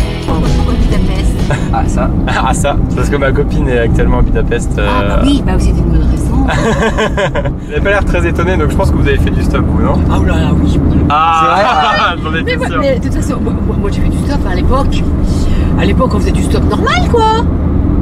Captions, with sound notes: So why Budapest? Ah, that's the point! Because my girlfriend is living in Budapest. Oh okay, that's a good reason! (laughes) You don't look surprised so I guess you have already hitchhiked, haven't you? - Oooooh yes... - Aaaaah, I was sure! At that time, we often hitchhiked!